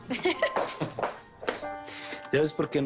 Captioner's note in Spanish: Risas